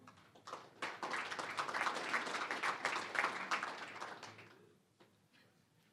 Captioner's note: applause